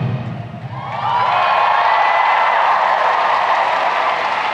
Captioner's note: crowd cheering